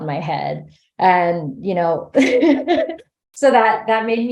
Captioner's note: laughs